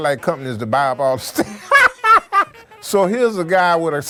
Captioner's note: laughs